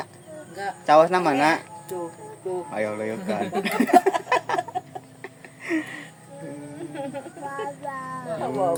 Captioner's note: laughs